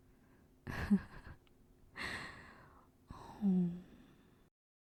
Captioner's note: laugh